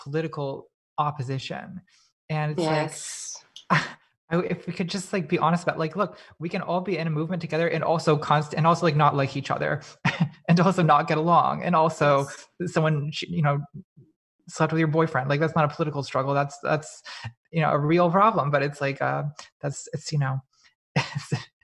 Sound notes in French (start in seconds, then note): 10.0 rires